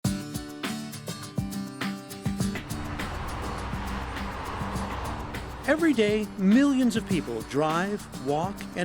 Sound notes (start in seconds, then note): 0.5 lively upbeat music; 2.4 vehicles whooshing